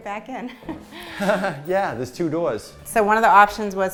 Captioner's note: mocking Laugh